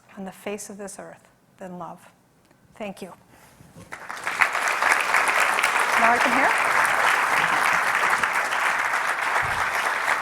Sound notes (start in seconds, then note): 3.9 clapping